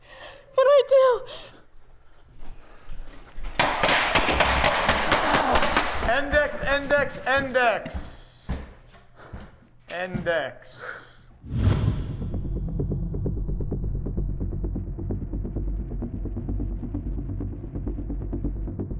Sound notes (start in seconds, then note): 0.0 heavy breathing; 3.6 gunshots; 11.4 dramatic music